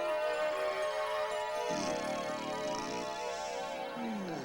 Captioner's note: snoring